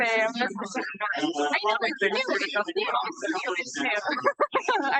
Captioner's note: participants chattering